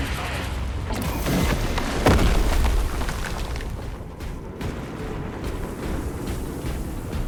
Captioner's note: gunfire